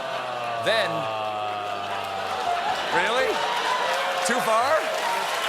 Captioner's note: audience reacts